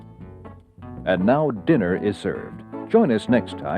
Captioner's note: voiceover